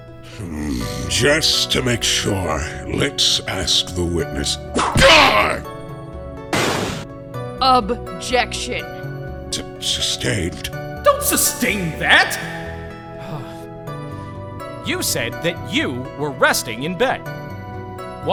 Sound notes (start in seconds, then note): 4.8 whip crack!